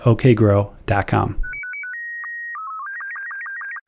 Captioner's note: electronic beeping